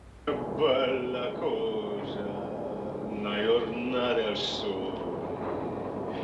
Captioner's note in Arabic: صوت منطوق باللغة الإيطالية